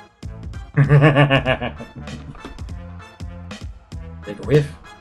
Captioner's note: laughs